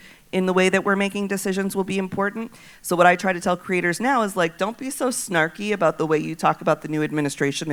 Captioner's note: none